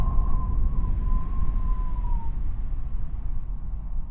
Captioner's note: wind howling